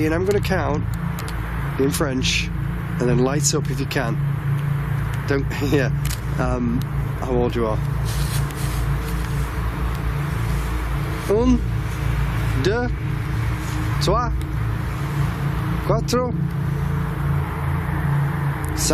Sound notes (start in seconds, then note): 11.4 speaking in foreign language